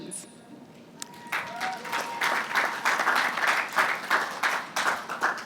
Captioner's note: applause